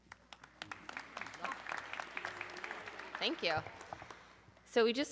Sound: audience clapping

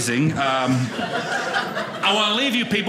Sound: audience laughing

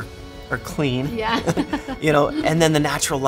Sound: laughs

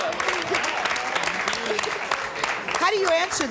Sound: audience cheers

